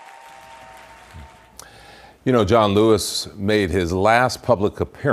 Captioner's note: cheers and applause